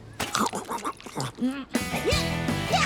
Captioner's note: munching